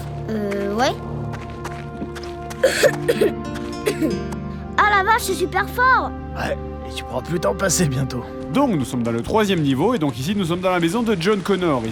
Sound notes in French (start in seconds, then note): 3.8 tousse